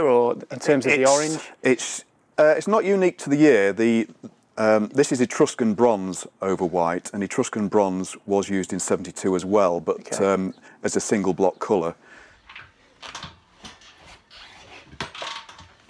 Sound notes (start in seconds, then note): 12.6 metal clanging